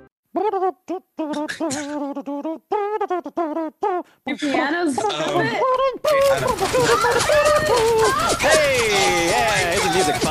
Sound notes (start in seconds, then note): 0.8 making trumpet sounds; 6.7 screams/ gunshots